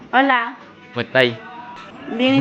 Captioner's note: Spanish